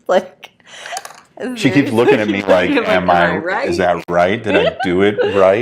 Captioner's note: laughing